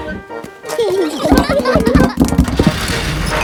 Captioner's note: children giggling